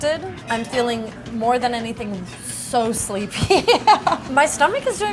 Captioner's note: laughs